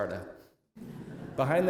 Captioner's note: laughter